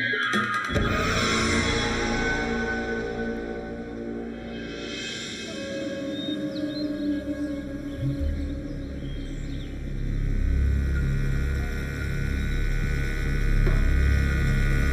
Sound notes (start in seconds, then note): 7.5 engine revving; 8.9 suspenseful music